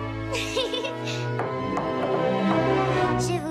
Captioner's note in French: toc toc toc toc toc